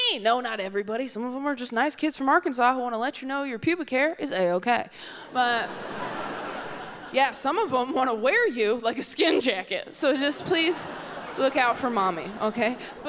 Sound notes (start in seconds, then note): 5.3 audience laughs